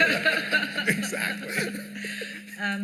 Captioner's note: laughter